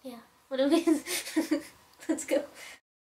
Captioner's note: laugh